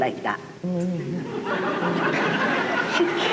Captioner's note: laughter